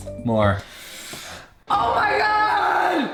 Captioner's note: sharp intake of breath; echoes